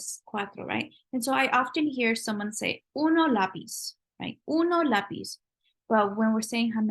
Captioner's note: spanish; spanish